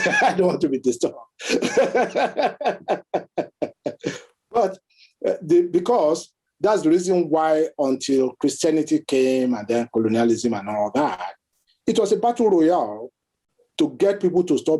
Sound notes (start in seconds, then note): 1.4 laughs